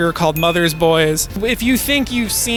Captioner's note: movie box cover dinging